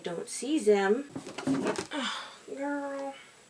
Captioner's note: groan